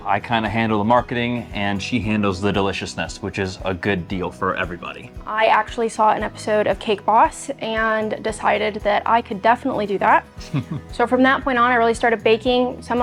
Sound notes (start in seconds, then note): 10.4 laughing